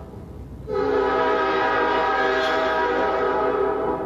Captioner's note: train hoots